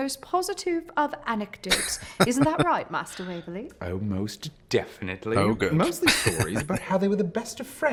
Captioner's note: chuckling